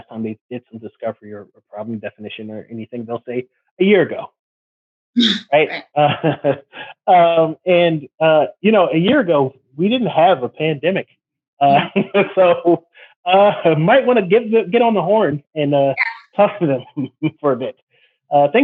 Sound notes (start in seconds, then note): 5.9 laughs; 6.0 chuckles; 11.6 laughs